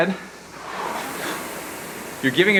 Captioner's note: rowing machine whirring